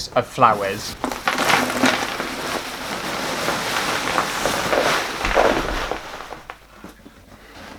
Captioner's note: plastic Flowers Rustling